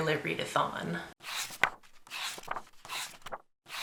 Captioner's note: page turning